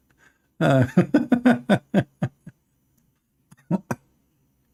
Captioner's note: Ketawa